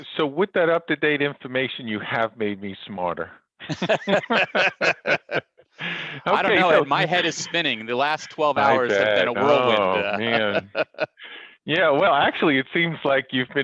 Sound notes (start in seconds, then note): 3.6 both laughs